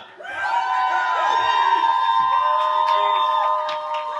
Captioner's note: cheering